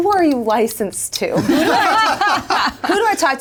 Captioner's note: all laugh